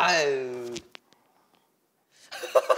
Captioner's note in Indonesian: Sepi